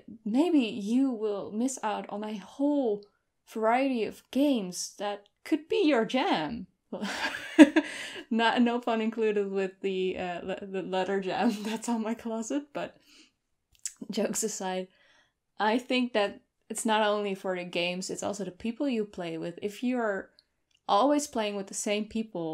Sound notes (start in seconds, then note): 7.2 laughs